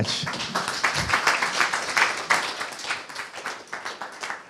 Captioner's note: applause